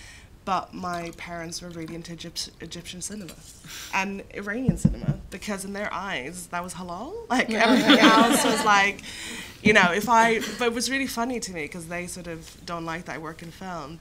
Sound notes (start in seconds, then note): 7.6 laughter